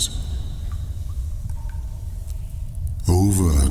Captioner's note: cave noises